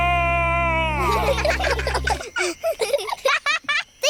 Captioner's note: children giggle